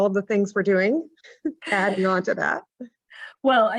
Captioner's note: chuckles